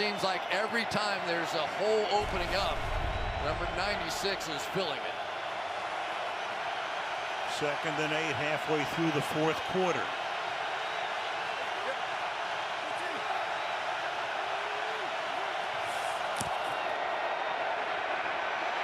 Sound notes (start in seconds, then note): 11.0 crowd cheering